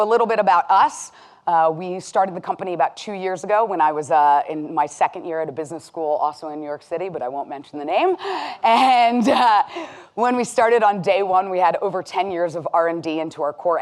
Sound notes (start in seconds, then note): 9.7 laughing